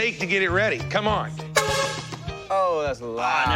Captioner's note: horn honks